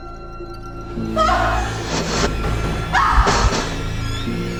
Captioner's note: Jen screams